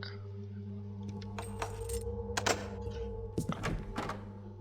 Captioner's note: keys jingle, doorknob clicks again